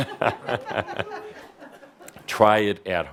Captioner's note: chuckles